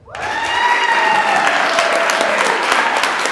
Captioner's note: applauding